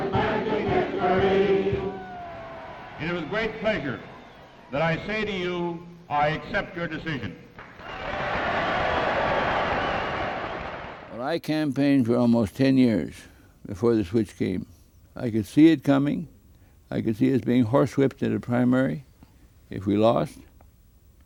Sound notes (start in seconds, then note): 7.6 loud applause & cheers